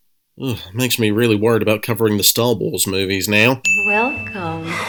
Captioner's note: sigh